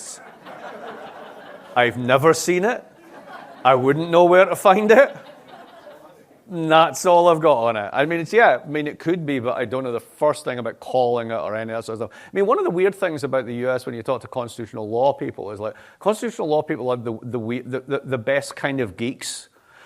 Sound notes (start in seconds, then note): 0.2 laughter; 4.8 laughter